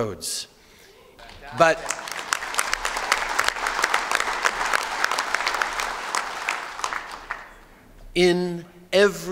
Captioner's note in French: Applaudissements